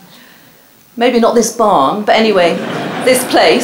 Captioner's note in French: rires